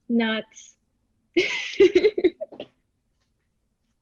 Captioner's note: giggling